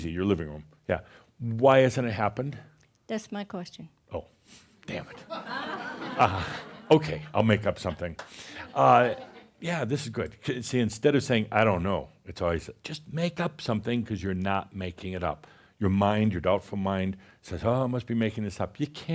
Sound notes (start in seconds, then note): 5.1 laughter